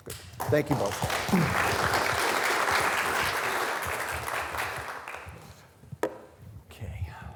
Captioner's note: students applauding